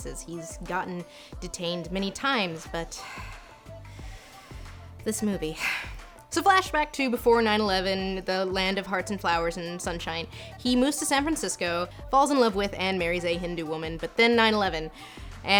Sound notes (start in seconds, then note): 5.5 sighs